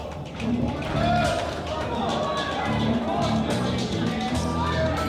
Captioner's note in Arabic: تشجيع الجماهير